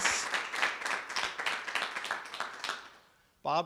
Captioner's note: clapping